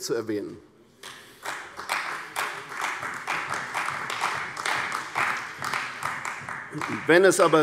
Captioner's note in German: Beifall bei der CDU